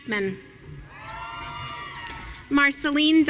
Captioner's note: audience cheering